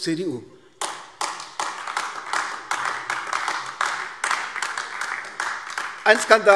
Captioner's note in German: Beifall AfD